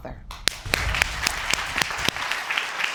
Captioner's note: applause